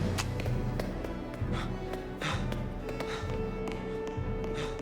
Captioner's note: breathing heavily